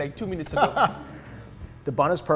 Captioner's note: laughing